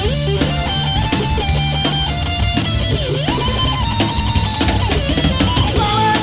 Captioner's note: applause